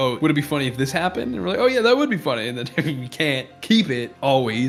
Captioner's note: chuckles